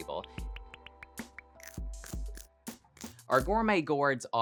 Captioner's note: bites chomping